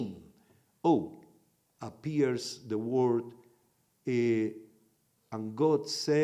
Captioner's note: in Hebrew